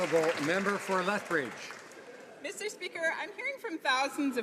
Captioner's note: some Applause